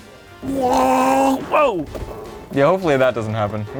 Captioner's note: gurgles